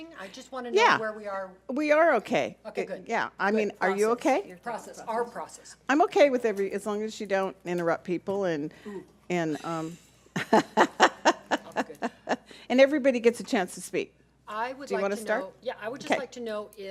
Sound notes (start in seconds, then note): 10.3 laughs